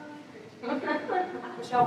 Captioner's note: laughter